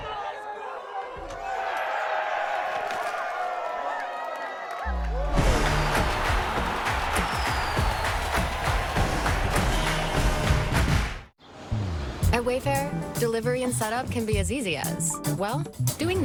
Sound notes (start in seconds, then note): 0.0 crowd cheering; 5.6 cheering from a room; 8.4 crowd cheering